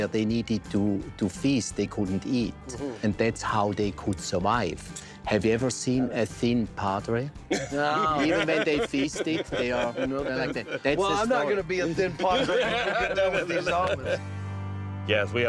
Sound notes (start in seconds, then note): 7.5 laughter